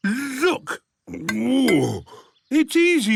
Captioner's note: grunts